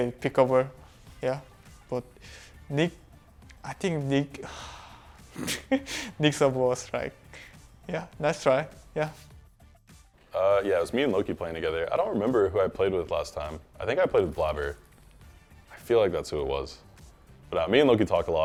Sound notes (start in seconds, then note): 4.4 sighs; 5.3 laughs